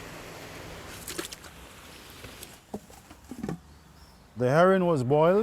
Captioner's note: water splashing